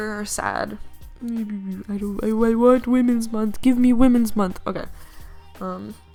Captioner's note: sad noises